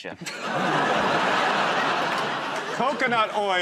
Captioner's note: laughter